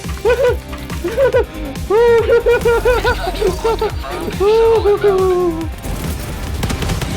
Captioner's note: laughing like a hyena